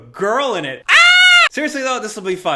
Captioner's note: screams